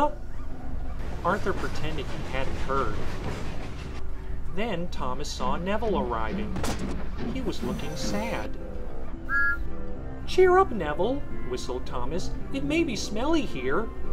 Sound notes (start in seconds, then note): 9.2 whistle toot